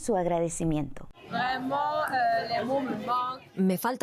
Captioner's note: Hablando idioma extranjero